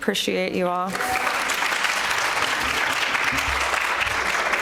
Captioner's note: attendants applauding